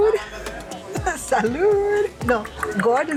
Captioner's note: in Spanish